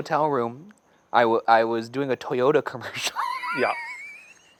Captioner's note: laughing